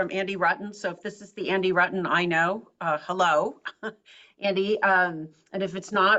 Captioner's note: laugh